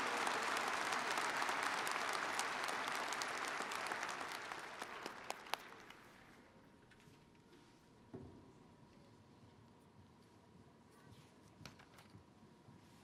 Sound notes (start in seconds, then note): 1.6 cheers and applause